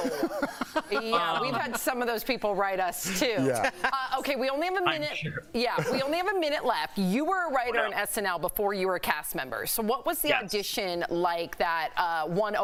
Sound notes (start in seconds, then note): 0.0 laughter